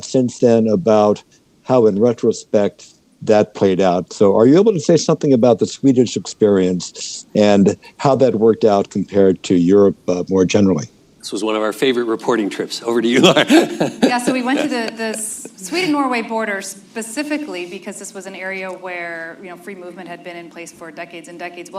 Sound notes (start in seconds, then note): 13.0 laughs